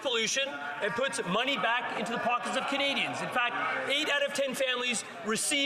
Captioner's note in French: voix de l'interprète